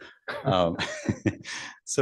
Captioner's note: chuckles